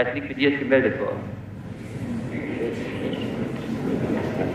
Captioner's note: crowd murmuring